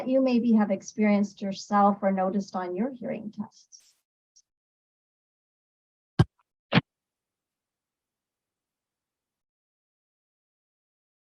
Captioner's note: lengthy pause